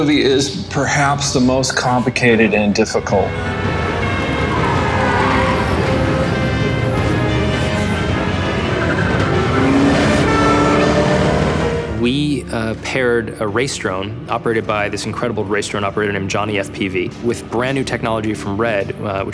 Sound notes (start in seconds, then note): 3.8 police sirens wailing; 9.6 engine revving